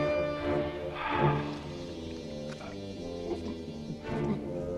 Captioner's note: Torente sighs; Torente gulping